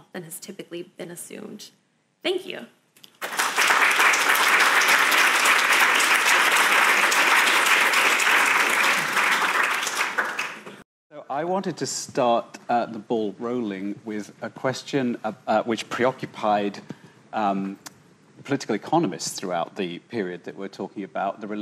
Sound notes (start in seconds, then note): 3.1 audience applauding